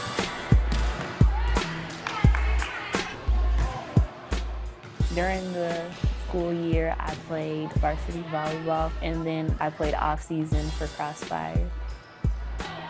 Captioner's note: sounds of people in a gym